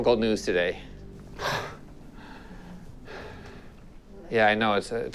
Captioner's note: man exhales sharply